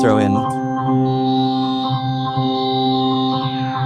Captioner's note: loud ringing